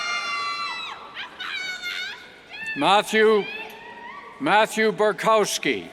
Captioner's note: cheers; indistinct yells